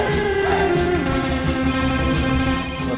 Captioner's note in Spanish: suena el teléfono